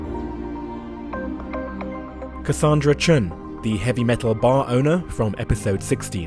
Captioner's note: voiceover